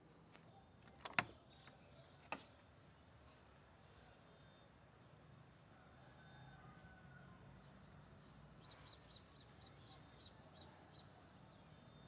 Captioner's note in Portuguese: canto dos pássaros